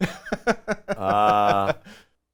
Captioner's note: laughs